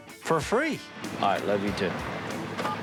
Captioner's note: phone beeps